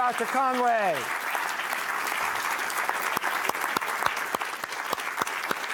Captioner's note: audience applauding